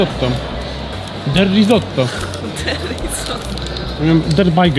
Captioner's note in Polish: śmiejąc się